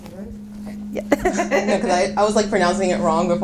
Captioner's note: laughing